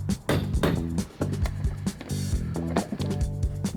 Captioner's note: hammer pounding